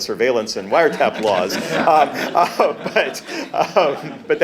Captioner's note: laughs